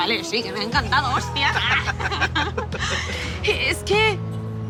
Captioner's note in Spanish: Con acento español; Risas